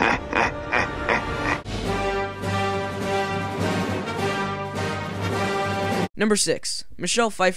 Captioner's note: evil laugh